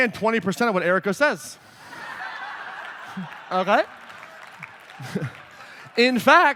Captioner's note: laughter; applause